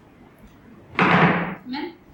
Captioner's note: knocking